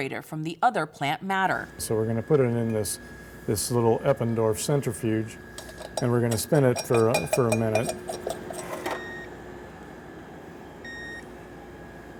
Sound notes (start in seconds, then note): 8.0 centrifuge beeping; 8.1 lid clanging